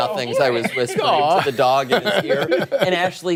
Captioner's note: laughter